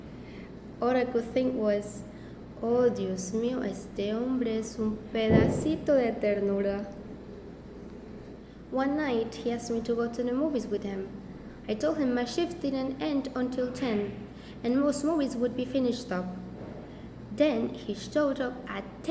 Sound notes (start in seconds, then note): 2.4 Spanish